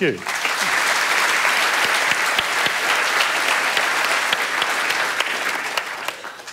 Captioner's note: applause